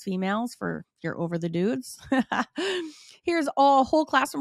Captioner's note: chuckles